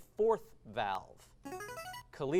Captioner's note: device sound